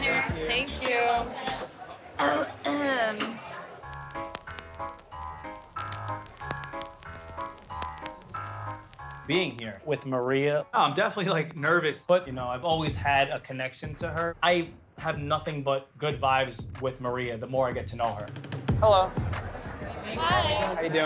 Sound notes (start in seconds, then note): 2.0 clearing throat; 3.5 upbeat music